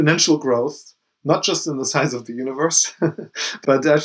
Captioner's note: chuckles